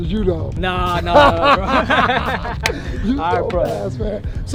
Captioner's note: laughing